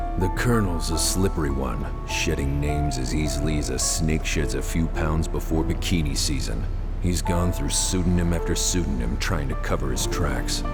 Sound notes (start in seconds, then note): none